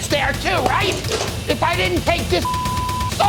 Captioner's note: pan clanks; beep